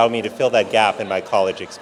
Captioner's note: audience laughing